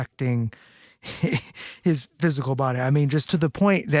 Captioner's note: laughs